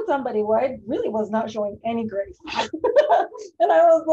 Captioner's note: laughs